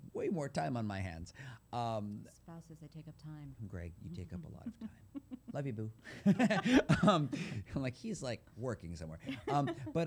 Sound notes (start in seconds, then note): 6.0 laughter